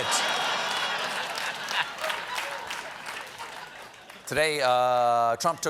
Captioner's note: laughter